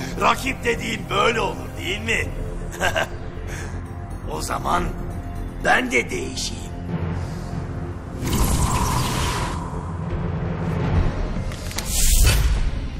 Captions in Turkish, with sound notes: Rakip dediğin böyle olur dimi? [GÜLME SESİ] O zaman, bende değişeyim. [GERİLİM MÜZİĞİ ÇALIYOR]